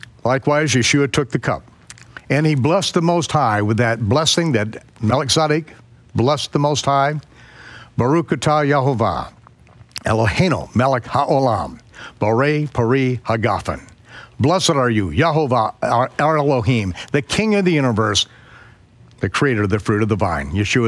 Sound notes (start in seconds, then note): 8.0 speaking in foreign language